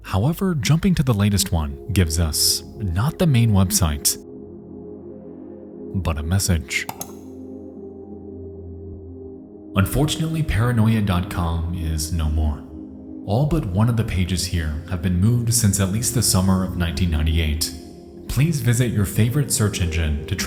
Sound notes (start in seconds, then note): 6.8 mouse click; 8.9 suspenseful music